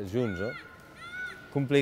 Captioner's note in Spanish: ruido de calle